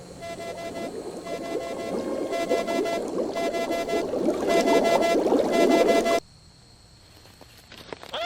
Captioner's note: cicadas humming; low machine humming; water bubbling; frantic alarm beeping; high pitched squeal; leaves rustling